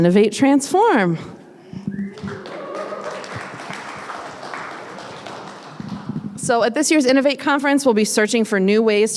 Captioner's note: applause